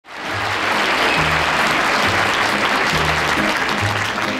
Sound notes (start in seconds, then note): 0.0 audience cheering